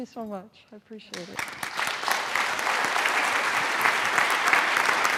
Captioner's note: audience applauding